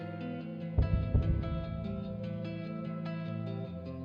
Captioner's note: heart beating